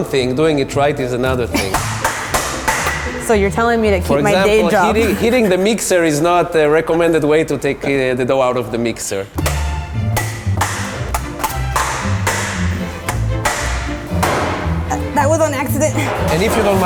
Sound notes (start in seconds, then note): 1.6 clanging; 9.3 playful music; 10.1 clanging